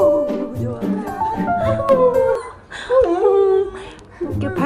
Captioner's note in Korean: 하울링